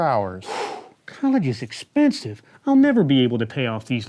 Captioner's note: sighs